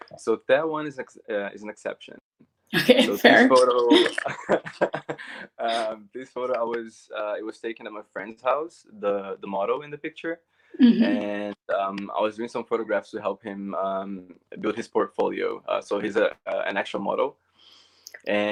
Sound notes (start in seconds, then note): 3.6 laughs